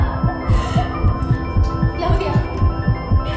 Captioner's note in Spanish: Latidos acelerados